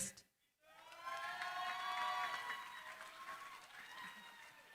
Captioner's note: cheering, applause